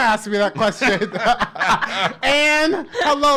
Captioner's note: laughs